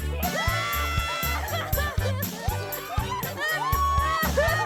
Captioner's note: audience laughs